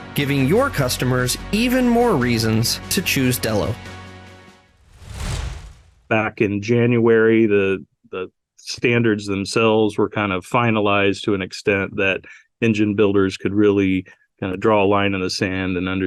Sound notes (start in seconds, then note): 4.7 air whooshing